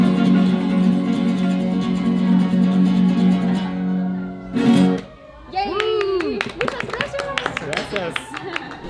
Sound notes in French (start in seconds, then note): 5.7 Applaudissement